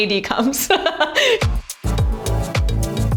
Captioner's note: Ashley chuckles; upbeat music